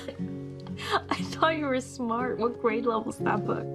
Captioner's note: laughs